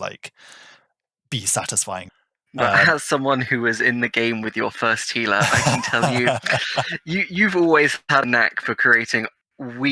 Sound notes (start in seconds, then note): 5.3 laughing